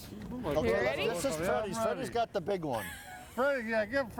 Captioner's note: laughs